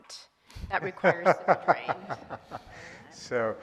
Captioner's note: laughing